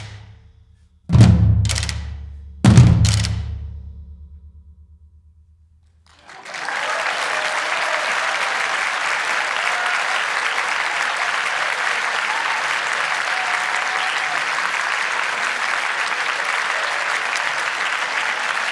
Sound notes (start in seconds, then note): 6.0 audience applause